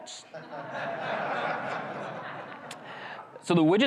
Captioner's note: crowd chuckles